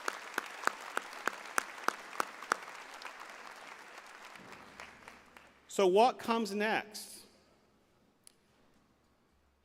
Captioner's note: applause